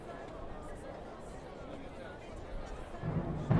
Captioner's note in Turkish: Sokak ortam sesi